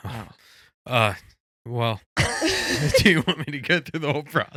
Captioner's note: laughing